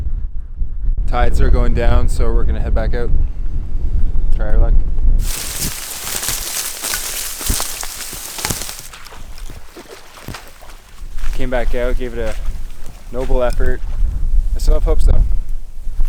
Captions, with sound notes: Tides are going down, so we're gonna head back out. Try our luck. (grass cracking) Came back out, gave it a noble effort. I still have hopes though.